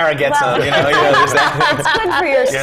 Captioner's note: laugh